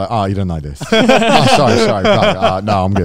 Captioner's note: speaks in Japanese